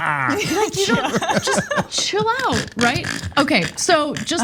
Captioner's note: laugh